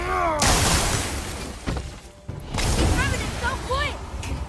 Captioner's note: Kratos grunting; enemy screeching; ice shattering